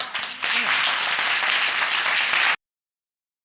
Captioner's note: audience applauds